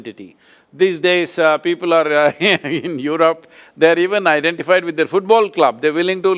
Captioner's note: laughs